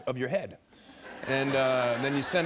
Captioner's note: laughter